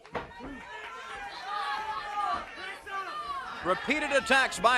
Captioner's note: crowd chatter